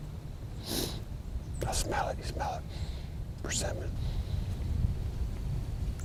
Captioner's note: sniffing